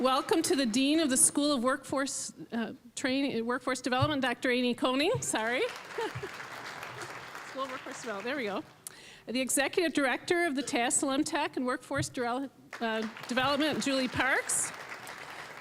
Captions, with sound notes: Welcome to the Dean of the School of Workforce Train-- uh, Workforce Development, Dr. Amy Koning-- sorry. (applause) "School of Workforce Development"-- there we go. The Executive Director of the Tassell M-TEC and Workforce Development, Julie Parks. (applause)